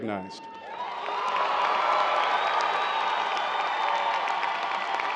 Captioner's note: cheers and applause